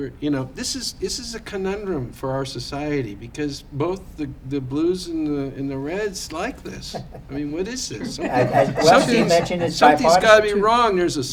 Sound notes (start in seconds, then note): 6.5 laughter